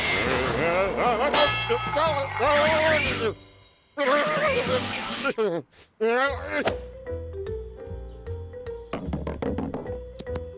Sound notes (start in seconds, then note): 0.9 nervous groans